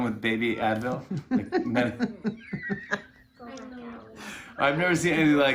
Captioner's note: laughter